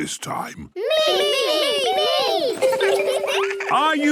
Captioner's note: laughter